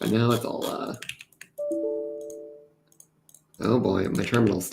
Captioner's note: tones